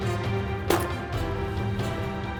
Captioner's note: gun shot